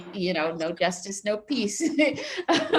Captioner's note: laughs